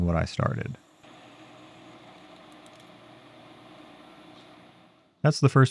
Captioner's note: machinery whirring